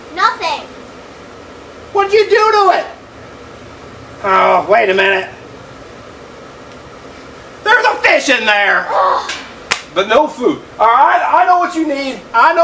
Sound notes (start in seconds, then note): 8.9 assistant sighs